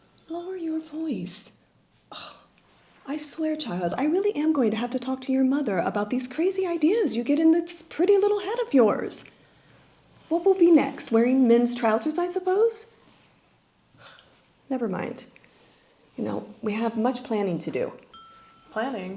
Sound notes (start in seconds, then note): 2.1 sighs